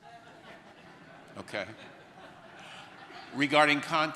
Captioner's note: audience laughter